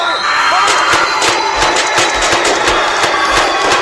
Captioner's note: gunfire